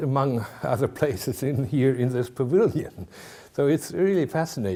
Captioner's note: chuckling